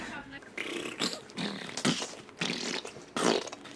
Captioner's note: blows raspberry and makes squishing noises